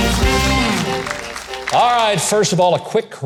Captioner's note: audience clapping